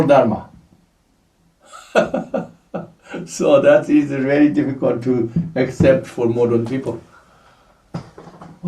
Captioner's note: laughs